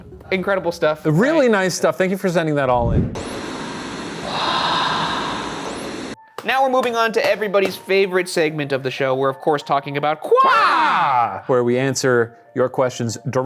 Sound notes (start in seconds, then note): 3.2 television static; 4.7 someone whispering